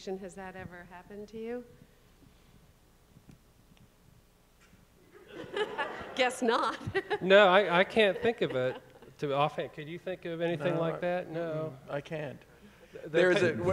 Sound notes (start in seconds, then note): 5.2 audience laughing; 6.6 chuckles